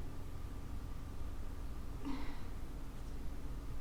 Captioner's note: sigh